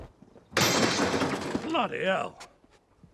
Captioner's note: microwave thuds